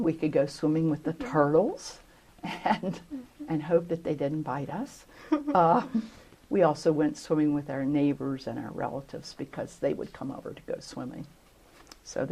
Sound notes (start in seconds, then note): 5.2 laughter